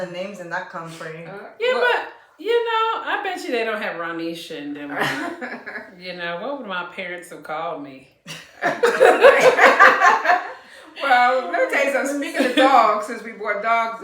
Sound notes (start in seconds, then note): 8.3 laughter